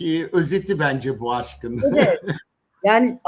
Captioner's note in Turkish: kahkaha